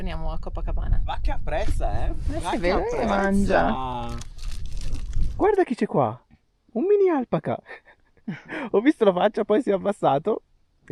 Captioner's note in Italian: risate